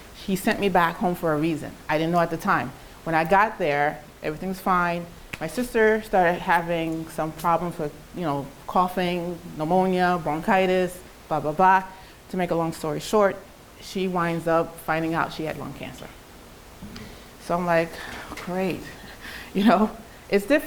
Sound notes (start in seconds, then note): 18.0 sighs; 19.6 chuckles